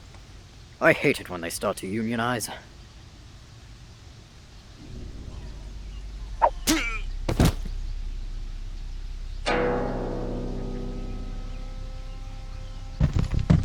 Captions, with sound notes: I hate it when they start to unionize. [grunt] [thud]